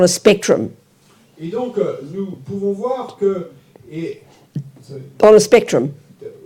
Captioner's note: French